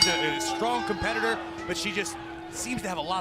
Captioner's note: bell